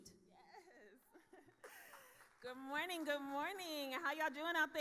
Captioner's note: laughs